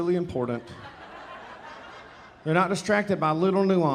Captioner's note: audience laughing